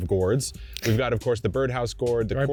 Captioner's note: chuckling